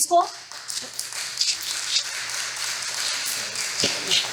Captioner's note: applause